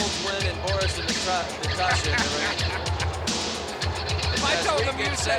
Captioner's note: laughs